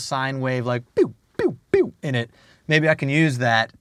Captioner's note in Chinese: 模仿聲音